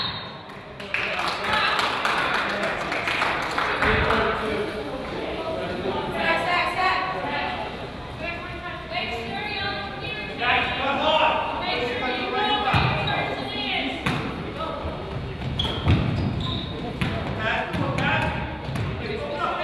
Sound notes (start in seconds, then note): 0.0 whistle blows; 0.5 crowd applauds; 6.4 coaches yells